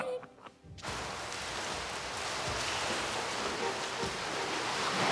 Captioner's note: water splashing